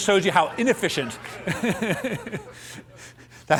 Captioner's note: laughter